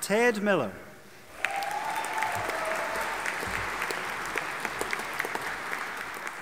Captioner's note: audience applauding and cheering